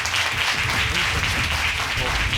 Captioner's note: audience applauding